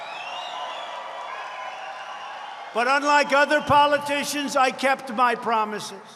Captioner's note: applause